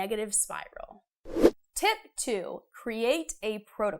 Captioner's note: frame whooshes